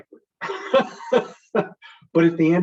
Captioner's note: chuckles